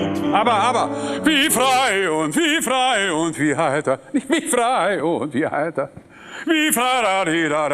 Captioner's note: imitates the singer